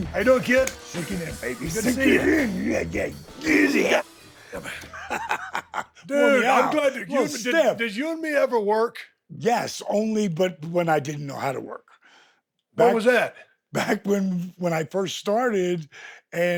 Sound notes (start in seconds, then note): 3.3 Dallas grunting; 4.4 Dallas laughs